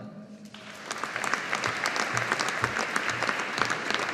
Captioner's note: audience applauding